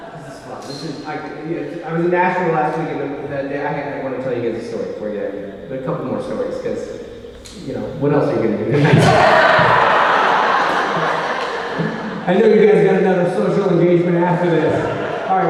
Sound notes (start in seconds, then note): 10.2 audience laughing